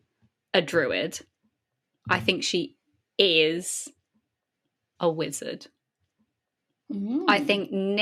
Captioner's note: hums thoughtfully